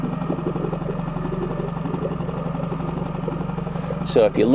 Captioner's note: boat engine chugging